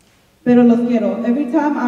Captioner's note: speaking in Spanish